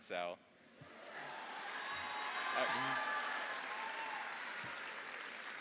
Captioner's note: audience applauding